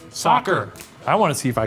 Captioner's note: in Unison